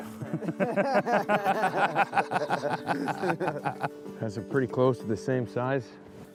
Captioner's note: laughter